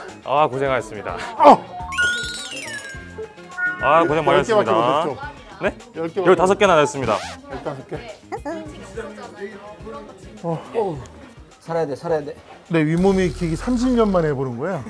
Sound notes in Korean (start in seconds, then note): 1.8 익살스러운 효과음